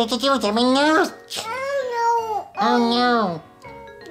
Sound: mumbles

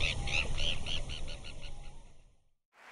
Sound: bird tweeting

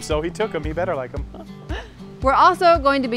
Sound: laughs

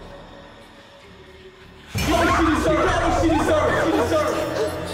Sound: yelling

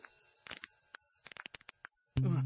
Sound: knuckles cracking

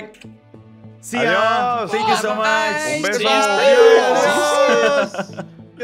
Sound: everyone saying goodbye

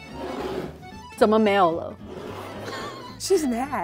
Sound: speaking in mandarin

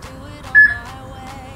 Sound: peep

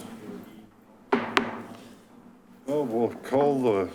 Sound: gavel banging

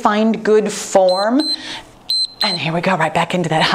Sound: timer beeps

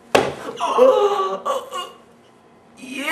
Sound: raspy groan

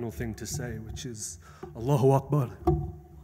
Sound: speaks in foreign language

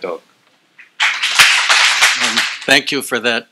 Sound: applause

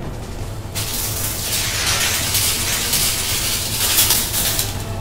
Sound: electric static noises

